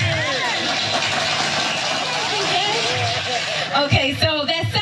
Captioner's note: applause